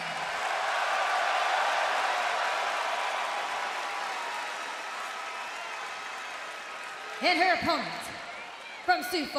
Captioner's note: cheers and applause